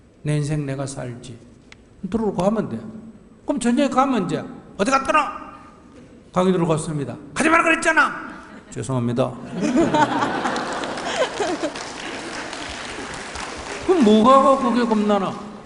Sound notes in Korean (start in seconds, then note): 9.3 청중과 질문자 웃음; 10.0 청중 박수